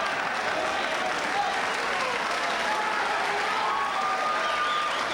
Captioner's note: audience applauding